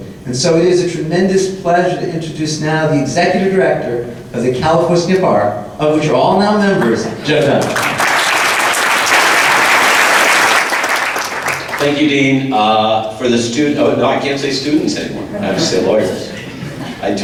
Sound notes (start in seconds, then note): 10.6 applause